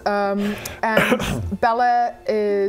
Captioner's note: coughs